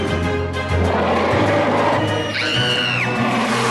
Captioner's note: roar